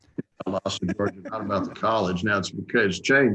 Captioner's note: speaks faintly